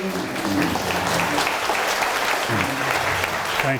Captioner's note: applause